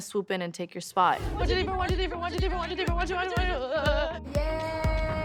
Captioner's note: chanting